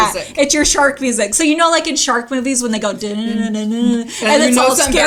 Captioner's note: hums